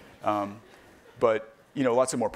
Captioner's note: laughing